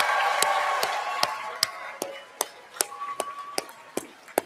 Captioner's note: cheers and applause